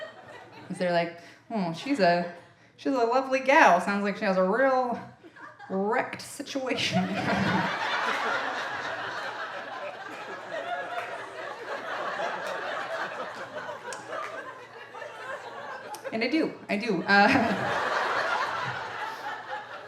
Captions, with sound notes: 'Cause they're like, "oh, she's a lovely gal, "sounds like she has a real wrecked situation." (audience laughing) And I do, I do, it works fine, it's great,